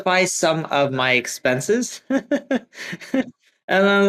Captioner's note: laughs